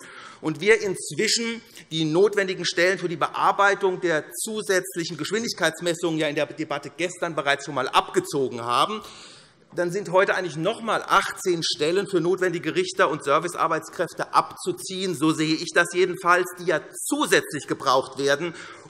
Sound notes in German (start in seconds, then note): none